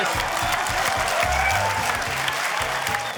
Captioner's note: cheering, applause